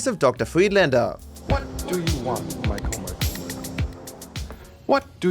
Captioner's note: Friedlander’s voice echcoes